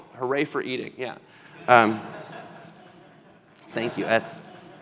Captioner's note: laughter